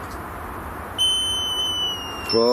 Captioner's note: energy detector device beeping and whistling